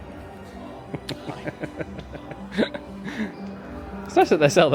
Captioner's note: laughs